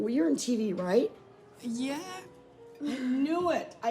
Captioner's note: laughs